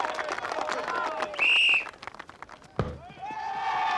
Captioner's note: whistle